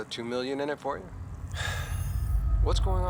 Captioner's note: labored sigh